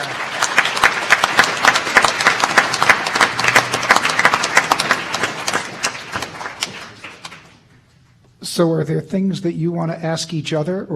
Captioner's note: applause